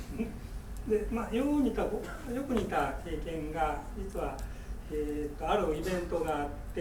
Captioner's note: speaking in foreign language